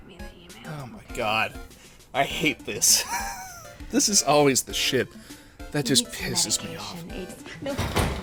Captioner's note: wheeze